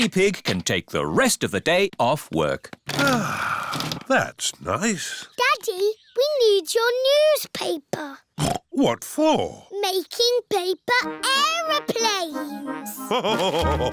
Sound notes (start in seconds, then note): 3.0 sighs; 8.6 snorts